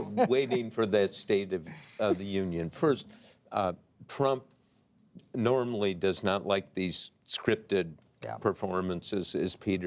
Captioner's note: laughter